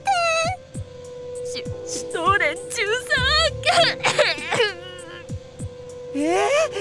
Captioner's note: bawl